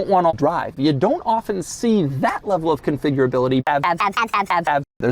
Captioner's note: slightly warpy audio